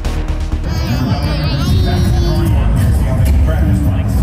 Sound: grunting

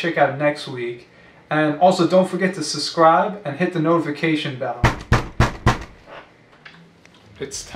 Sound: door Knocks Angrily

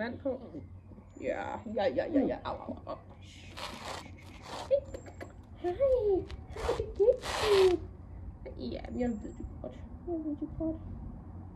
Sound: comforting and encouraging sounds

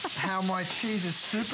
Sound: laughter

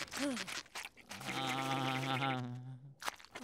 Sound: groaning

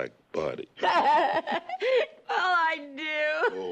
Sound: Betty laughs

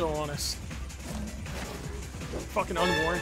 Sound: growls

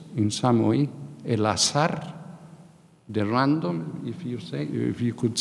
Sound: speaking in a foreign language

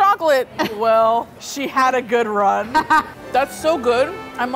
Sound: laughing

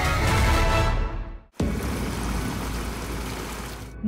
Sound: water gushing

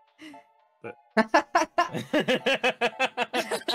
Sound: laughing

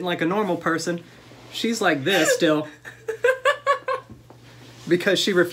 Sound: laughter

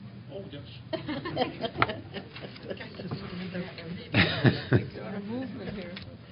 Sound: laughter

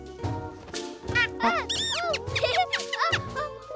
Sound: giggling

